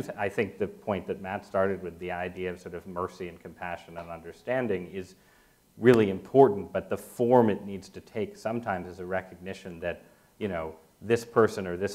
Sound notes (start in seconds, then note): none